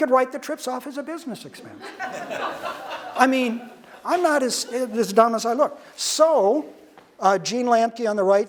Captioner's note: audience laughter